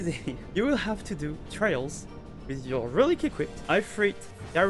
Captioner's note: laughs